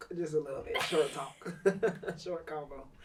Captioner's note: laughs